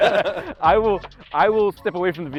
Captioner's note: both laughing